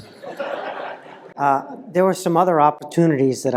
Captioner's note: laugh